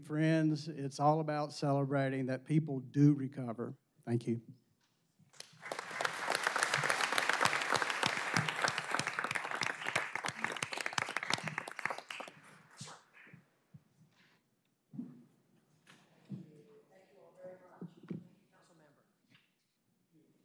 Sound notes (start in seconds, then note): 7.5 applause